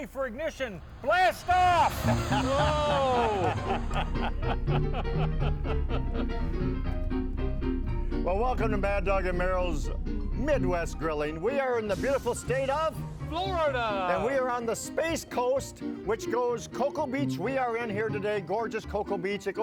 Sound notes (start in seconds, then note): 1.6 men laughing; 3.3 fast Ragtime piano music